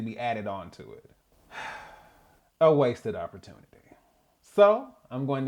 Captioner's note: sigh